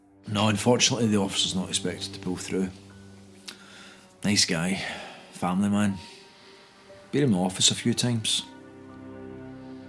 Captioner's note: none